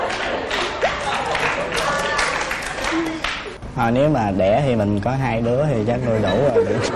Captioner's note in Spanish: Aplaudir